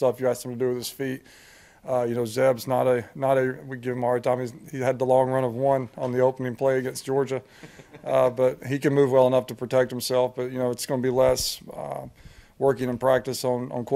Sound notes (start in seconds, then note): 7.5 interviewer laughs